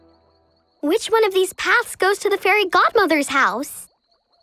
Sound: none

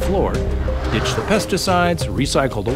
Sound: airplane motor rumbles

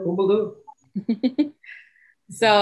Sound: chuckles

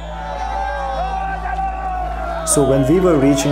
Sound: shouting

